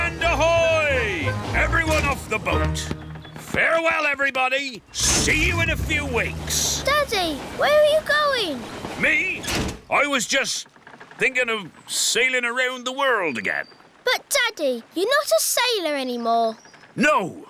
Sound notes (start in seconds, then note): none